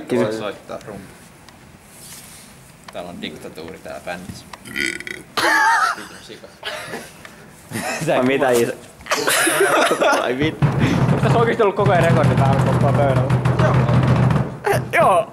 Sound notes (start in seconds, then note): 4.6 crocodiles_making_love.wav